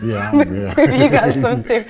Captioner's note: both laugh